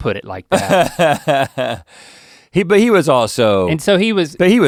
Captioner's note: Rhett laughs